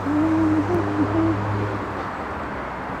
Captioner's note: humming